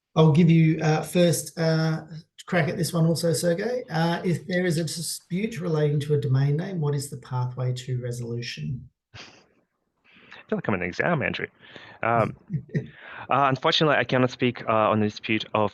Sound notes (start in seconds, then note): 9.2 chuckling; 12.2 chuckling